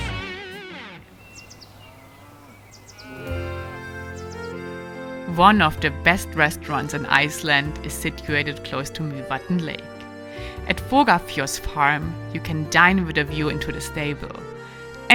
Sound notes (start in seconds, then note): 1.0 birds tweeting; 1.1 cows mooing; 4.8 gentle music